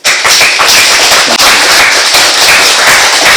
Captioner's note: applauding